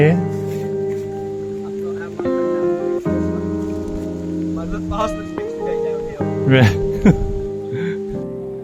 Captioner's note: laughs